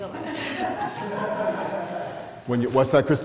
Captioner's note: laughter